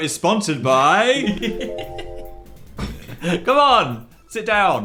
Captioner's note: laughs